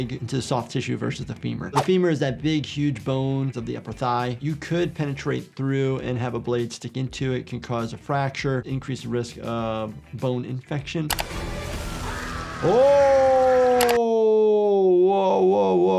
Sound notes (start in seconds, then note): 11.1 suspenseful music plays; 11.7 reptile screams